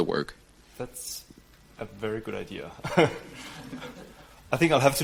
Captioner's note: laughs